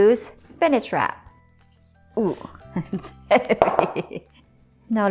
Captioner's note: chuckles; bowl thuds